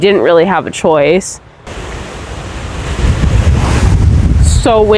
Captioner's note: wind kicks up